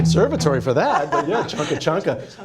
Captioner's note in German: lachen